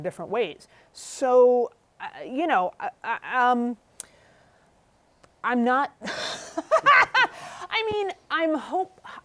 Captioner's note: laughter